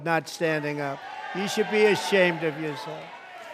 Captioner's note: applause